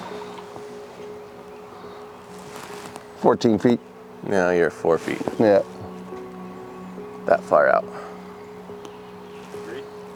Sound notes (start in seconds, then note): 0.5 sonar ball splashing